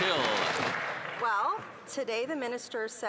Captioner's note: some Applause